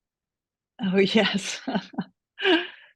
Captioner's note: laughter